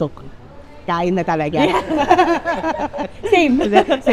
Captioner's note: laughs